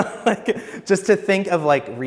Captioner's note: laughs